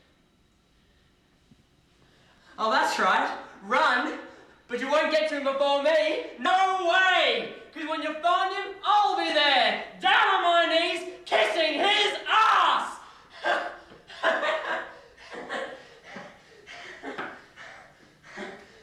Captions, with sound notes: Oh, that's right run, but you won't get to him before me. No way! 'Cause when you find him, I'll be there down on my knees, kissing his ass! (laughing maniacally)